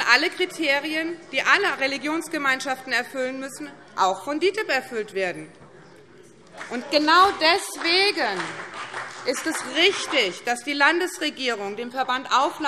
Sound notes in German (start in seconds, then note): 4.3 Beifall BÜNDNIS 90/DIE GRÜNEN und CDU